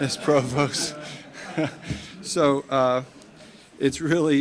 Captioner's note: audience laughing